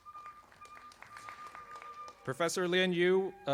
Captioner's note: audience applauding